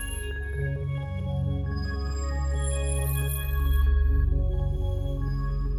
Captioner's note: none